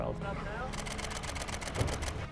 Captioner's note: camera shudder clicking